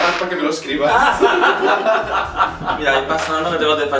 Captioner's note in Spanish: Risas